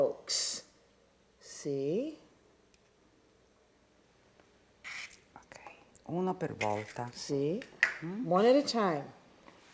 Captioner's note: speaking Italian